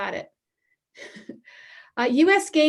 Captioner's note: laughter